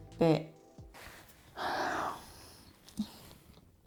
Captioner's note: sigh